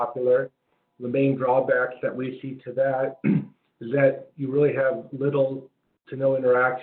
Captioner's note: cough